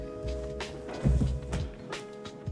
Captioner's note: sounding gavel